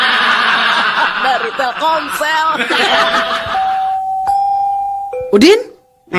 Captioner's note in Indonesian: tertawa